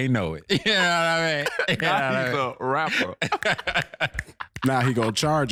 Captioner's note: laughing